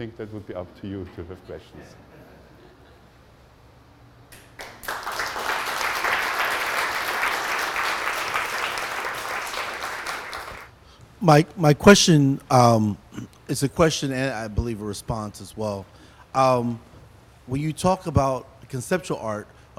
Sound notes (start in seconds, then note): 1.9 audience chuckles; 4.4 audience applause